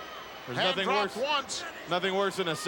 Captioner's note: none